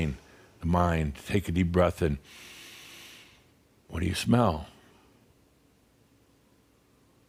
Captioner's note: he takes a deep breath through the nose